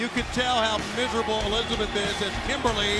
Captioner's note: crowd cheering